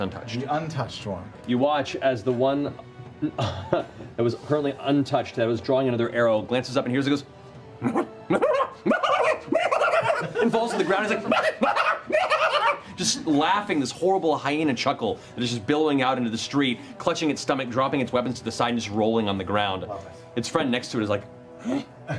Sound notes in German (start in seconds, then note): 8.3 unbeherrschbares Lachen; 11.6 Manisches Lachen